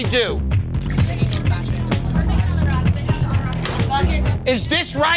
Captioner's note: chatter